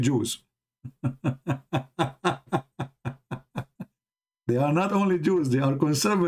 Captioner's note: Ketawa